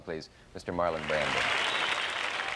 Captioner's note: applause